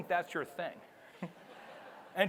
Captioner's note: audience laughs